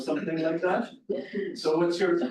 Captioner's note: laughter